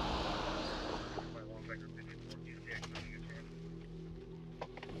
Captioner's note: radio noises